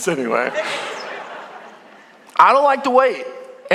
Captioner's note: congregation laughing